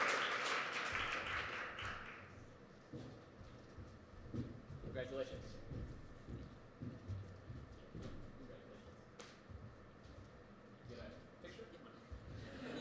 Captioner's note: applause